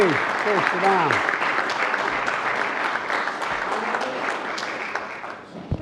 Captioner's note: applause